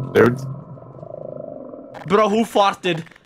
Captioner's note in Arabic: ضرطة